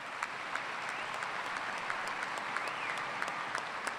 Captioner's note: applause